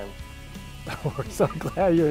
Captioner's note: laughs